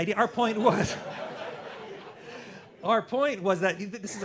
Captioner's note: laughter